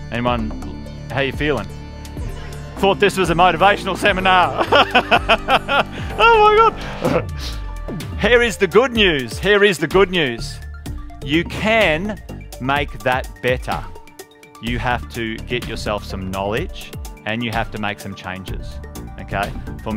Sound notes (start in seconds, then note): 4.4 laughing